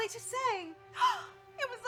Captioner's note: feigned gasp